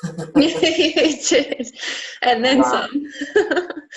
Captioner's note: both laugh